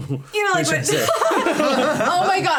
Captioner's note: all laughing